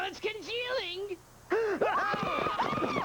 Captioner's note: gasps; crowd yelling